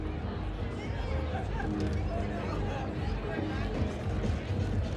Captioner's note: people chatting